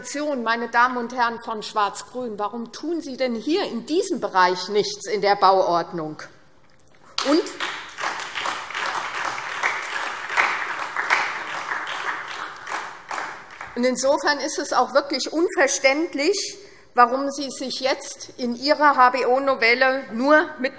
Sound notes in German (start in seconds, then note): 7.1 Beifall SPD